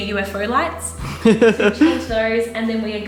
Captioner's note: laughter